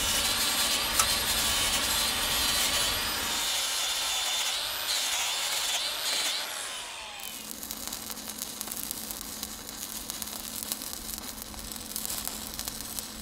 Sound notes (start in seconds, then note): 0.0 grinder whirring; 6.6 welder sputtering